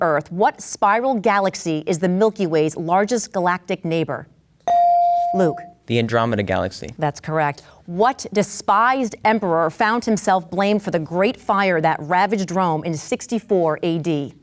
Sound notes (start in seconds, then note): 4.6 bell dings